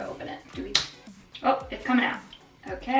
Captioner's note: bottle clicking